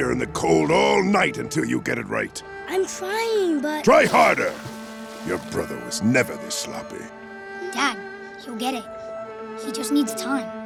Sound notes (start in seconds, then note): none